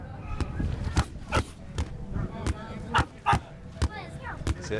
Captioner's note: grunting